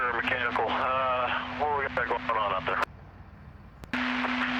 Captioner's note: static